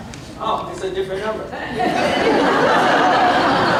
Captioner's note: laughter